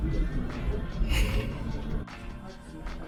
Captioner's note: laughing